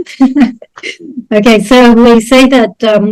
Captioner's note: laughter